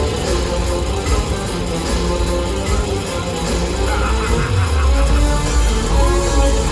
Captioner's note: spinning sounds